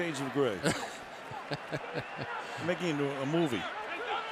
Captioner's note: laughs